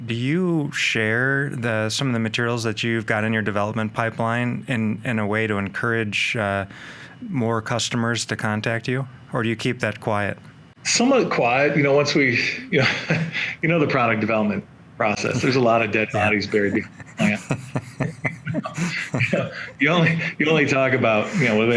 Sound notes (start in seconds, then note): 13.3 chuckles; 18.9 men chuckling